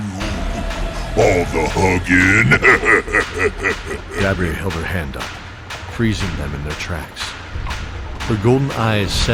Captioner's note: laugh